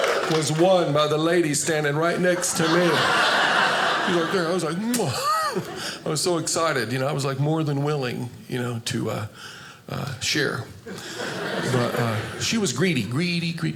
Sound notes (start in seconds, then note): 0.0 audience cheers; 1.7 audience laughing; 4.8 smooch; 10.9 audience laughing